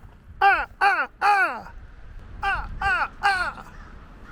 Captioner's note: making crow sounds